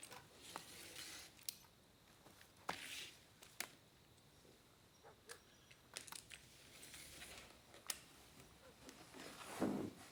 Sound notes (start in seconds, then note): none